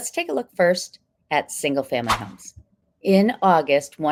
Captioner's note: text whooshing